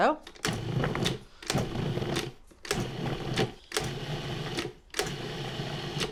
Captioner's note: food processor whirs